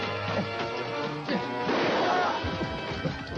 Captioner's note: gunshot